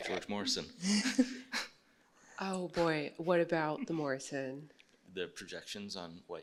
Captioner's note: laughs